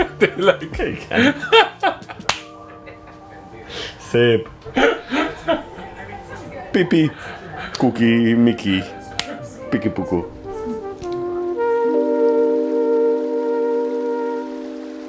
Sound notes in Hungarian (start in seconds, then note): 0.0 nevetés; 4.5 horkantás